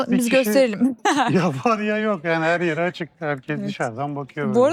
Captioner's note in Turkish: kahkaha